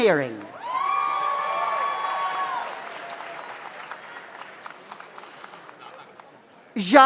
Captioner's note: audience applauds; audience cheers